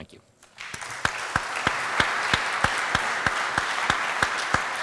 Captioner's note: applause